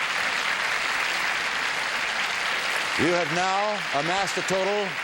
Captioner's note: applause